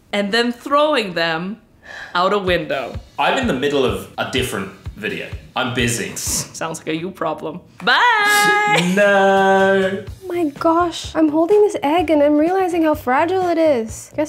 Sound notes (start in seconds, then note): 6.5 snickers